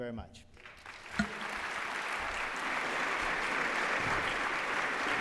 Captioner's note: applause